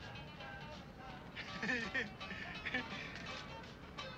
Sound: laughs

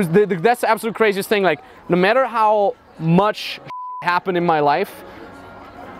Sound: beep

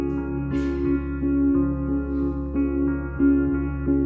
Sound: grunts

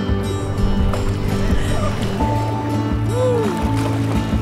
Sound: splashing and laughter

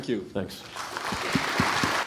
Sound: applause

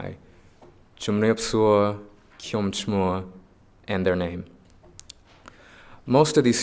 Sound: speaking foreign language

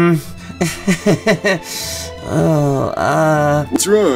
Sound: nervous laugh

